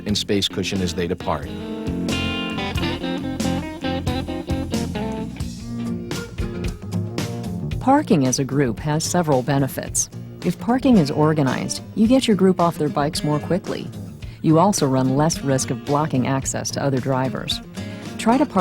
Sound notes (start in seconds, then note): 2.1 jazzy guitar; 8.2 voiceover